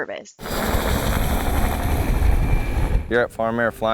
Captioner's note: helicopter roaring